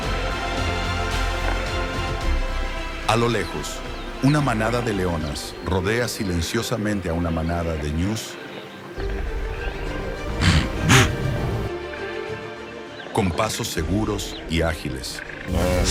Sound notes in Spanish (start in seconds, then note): 10.3 resoplido